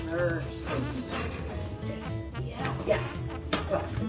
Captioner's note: snickering